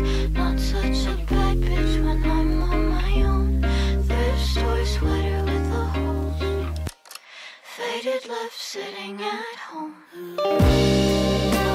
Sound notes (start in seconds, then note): 6.7 sound of a being gun loaded